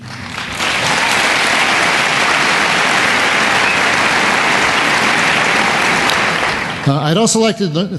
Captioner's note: applause